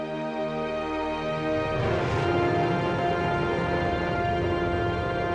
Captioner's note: rocket firing